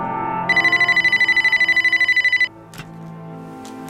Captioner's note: phone ringing